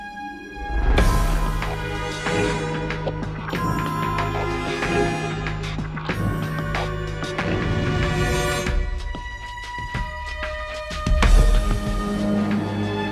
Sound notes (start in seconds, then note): none